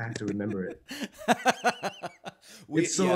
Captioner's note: laughing